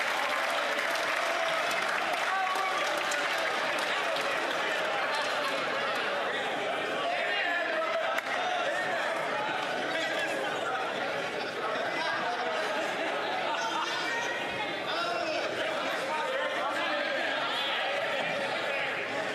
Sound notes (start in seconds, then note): 0.0 some Applause